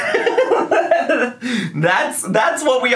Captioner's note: man giggling